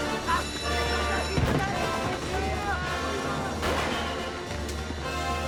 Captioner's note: ringing and yelling continue